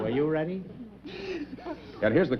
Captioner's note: chuckles